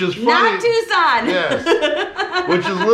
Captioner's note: chuckling